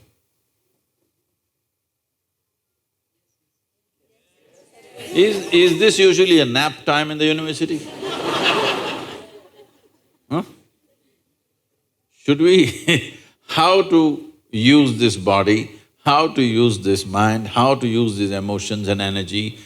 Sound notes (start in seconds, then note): 7.7 laughter; 12.7 laughs